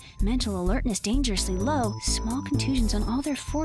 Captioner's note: beeping